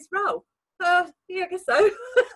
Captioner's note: laughs